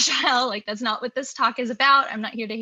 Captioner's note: laughs